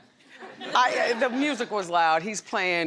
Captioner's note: audience laughs